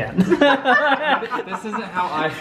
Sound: group laughs

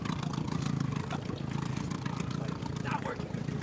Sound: chattering

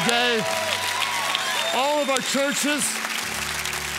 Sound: congregants cheer

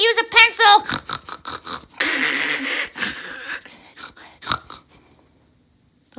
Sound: snorting laughter

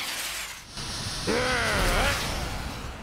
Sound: growls

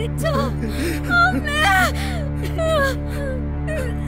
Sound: sobs

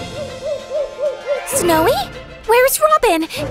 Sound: owl hoots

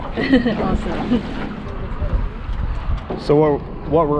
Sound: chuckling

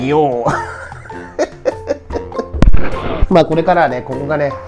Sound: laughs

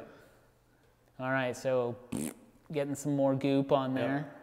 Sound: blowing raspberry

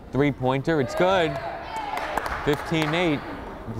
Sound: crowd cheering and applauding

